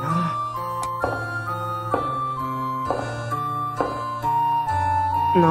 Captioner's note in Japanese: 足音：コツコツコツ･･･